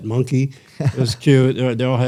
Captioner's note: laughter